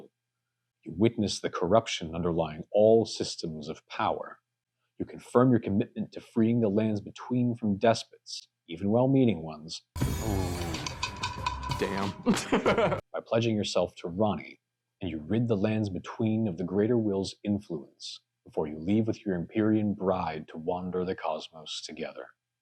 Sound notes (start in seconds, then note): 12.3 laughs